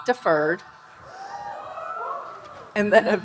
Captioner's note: audience cheering